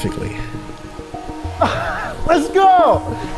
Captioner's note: drone buzzes